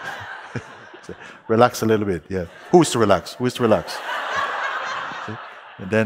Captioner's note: laughter